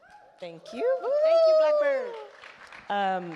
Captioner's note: all cheer